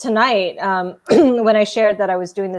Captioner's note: clearing throat